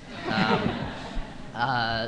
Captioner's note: laughter